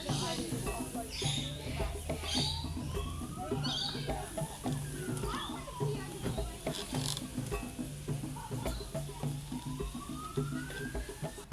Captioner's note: distant siren, birds chirping, people chattering